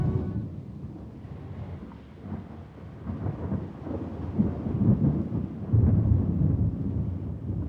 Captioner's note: thunder continues rumbling